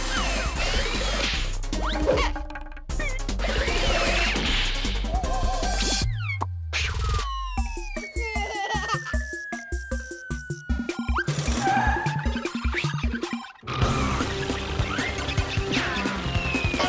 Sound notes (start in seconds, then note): 8.1 giggling; 11.6 tires screech